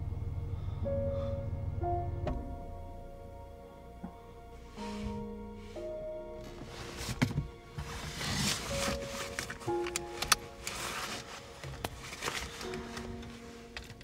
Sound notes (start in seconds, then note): 5.6 engine cranking